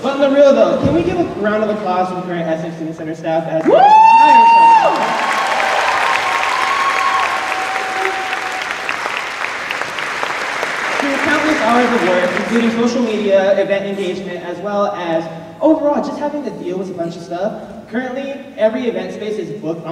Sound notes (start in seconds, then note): 3.6 cheers